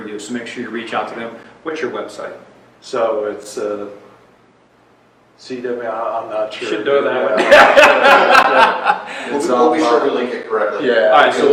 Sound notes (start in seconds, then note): 7.3 laughs